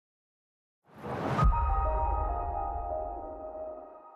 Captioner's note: whooshing